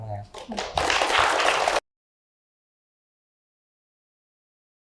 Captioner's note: applause